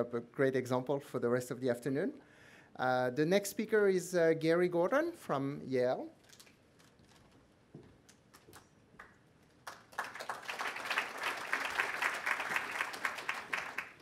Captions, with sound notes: a great example for the rest of the afternoon. The next speaker is Gary Gordon from Yale. [APPLAUSE]